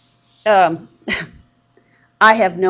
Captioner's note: chuckles